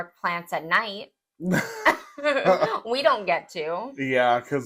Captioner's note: laugh